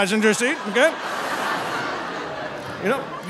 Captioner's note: audience laughing